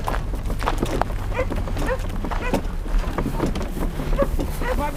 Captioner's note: confused dog barking in the background